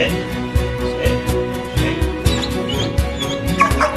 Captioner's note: chuckles